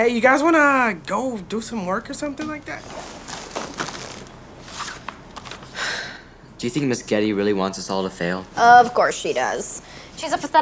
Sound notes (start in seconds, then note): 5.7 sighs